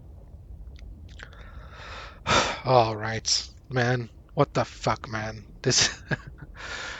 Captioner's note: sighs; laughs in disbelief AGAIN